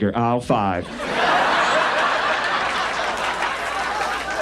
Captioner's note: audience laughs